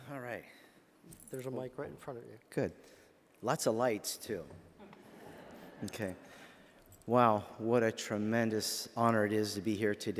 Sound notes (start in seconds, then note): 4.8 laughter